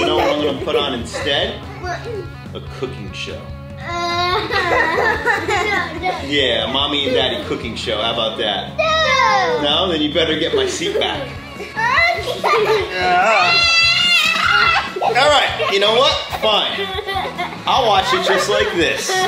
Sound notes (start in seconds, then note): 3.8 kids laugh; 12.4 kids scream and laugh; 19.0 kids laugh